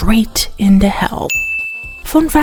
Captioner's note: ding